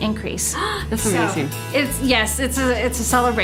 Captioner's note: gasping